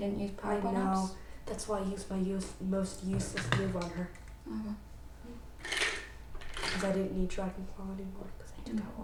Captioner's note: cup of colored pencils shakes